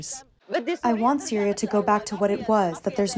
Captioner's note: through translator